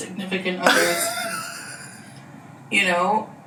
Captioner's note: laughs